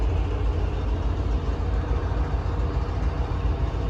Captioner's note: sound of train motot running at stationary position